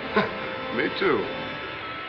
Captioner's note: chuckles